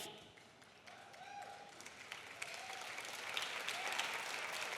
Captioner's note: audience applauding